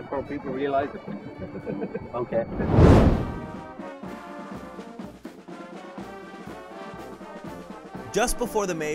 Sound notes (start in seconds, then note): 2.4 laughs; 5.5 marching band music